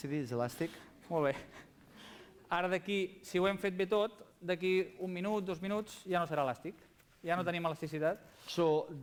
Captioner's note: non-english speech